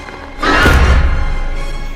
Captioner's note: shriek; thud